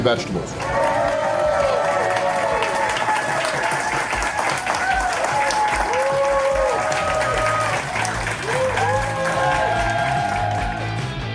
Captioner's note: crowd clapping and cheering